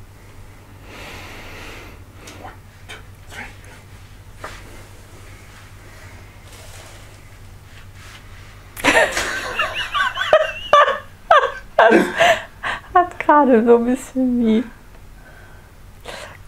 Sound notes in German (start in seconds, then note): 0.6 gähnt heimlich; 2.3 Aus dem Off; 8.7 lacht